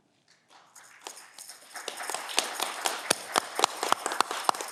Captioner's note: audience clapping